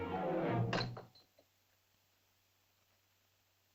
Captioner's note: spear clatters